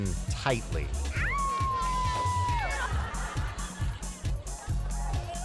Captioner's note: spectators cheering